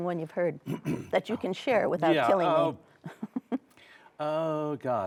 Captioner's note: chuckles